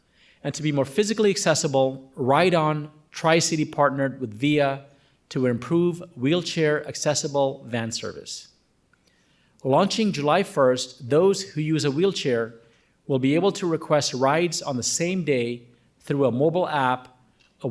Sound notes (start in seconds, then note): none